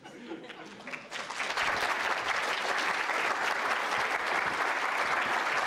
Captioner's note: applause